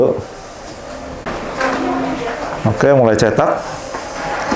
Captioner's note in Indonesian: suara mesin printer